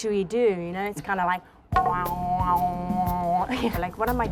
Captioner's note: imitates didgeridoo